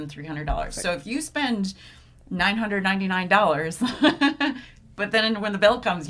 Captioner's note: laughs